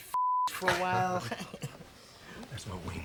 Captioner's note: laughing